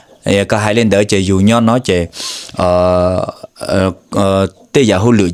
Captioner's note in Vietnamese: khịt mũi